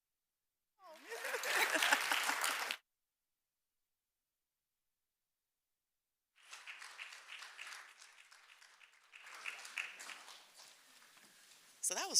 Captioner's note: applause